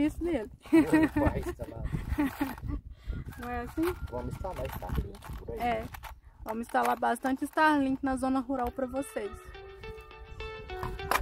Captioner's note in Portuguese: risadas